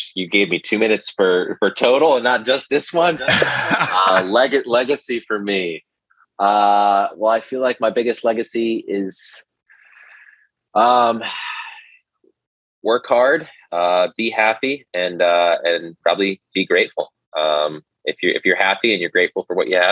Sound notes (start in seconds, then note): 3.1 laughs